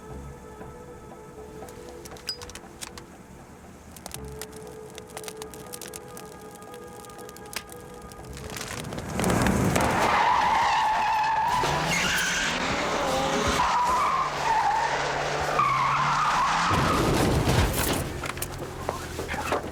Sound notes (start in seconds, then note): 4.0 fire crackles; 9.8 tires squeal